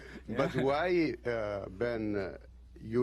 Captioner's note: laughter